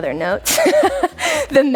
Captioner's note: laughs